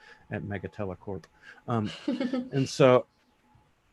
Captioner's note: laughing